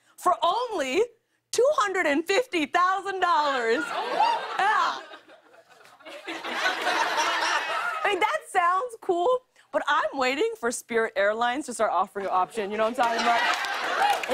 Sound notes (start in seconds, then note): 3.8 cheers; 5.9 laughter; 13.0 applause; 13.0 laughter